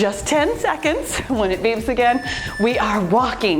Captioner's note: timer beeps